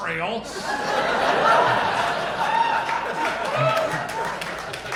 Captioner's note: audience applauding